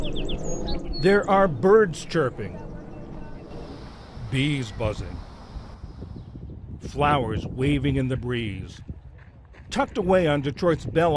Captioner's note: voice-over